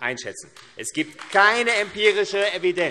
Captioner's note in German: Beifall AfD